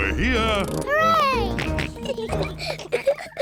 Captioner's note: kids giggling; george oinks